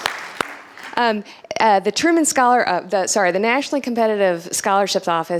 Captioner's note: applause